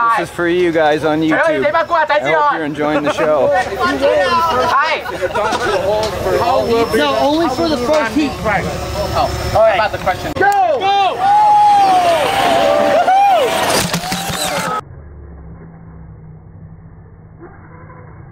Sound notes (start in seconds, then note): 0.0 speaking in foreign language; 4.1 crowd chattering; 12.2 crowd cheering; 15.4 low motor hums